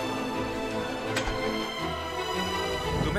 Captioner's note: Door closes